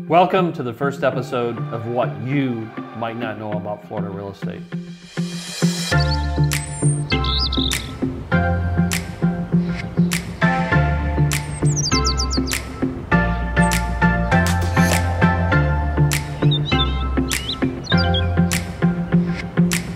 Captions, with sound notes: - Welcome to the first episode of What You Might Not Know About Florida Real Estate. (birds chirping)